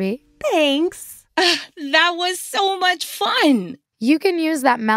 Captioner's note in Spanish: ríe